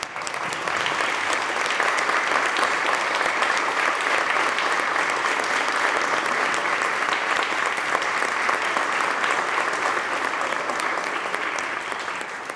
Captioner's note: applause